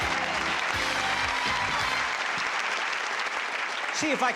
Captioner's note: applause